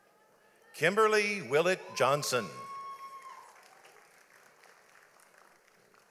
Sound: audience applauds

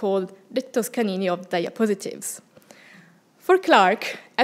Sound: speaking foreign language

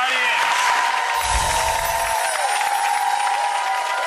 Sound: clapping

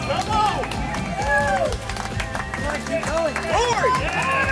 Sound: cheering

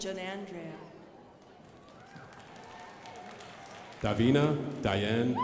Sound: crowd applauding

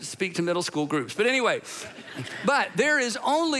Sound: congregation laughing

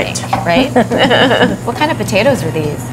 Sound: laughing

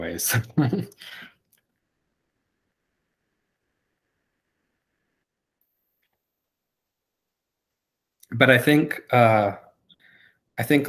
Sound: laughs

